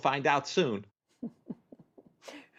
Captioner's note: laughter